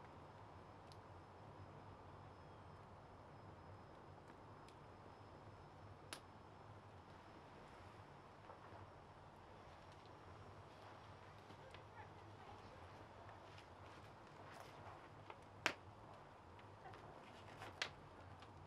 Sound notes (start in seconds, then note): 3.0 crackling fire